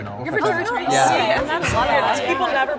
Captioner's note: crowd